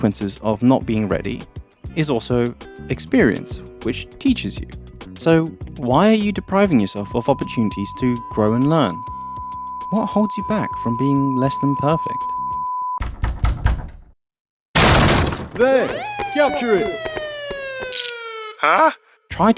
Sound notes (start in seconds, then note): 13.0 knocking on door; 14.8 crash